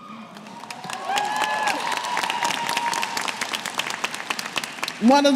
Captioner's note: cheers & Applause